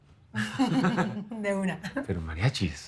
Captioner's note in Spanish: Risas